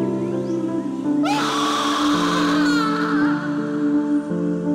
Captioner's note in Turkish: Bağırma sesi